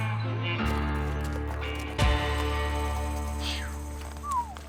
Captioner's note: whistles